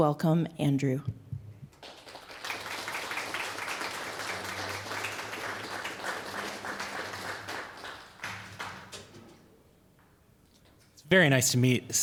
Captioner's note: applause